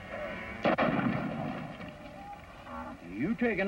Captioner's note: gunshot